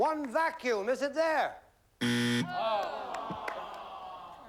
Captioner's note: buzzer